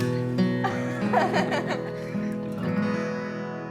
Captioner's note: laughing